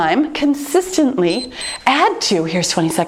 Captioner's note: timer beeps